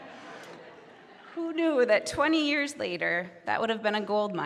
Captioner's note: audience laughing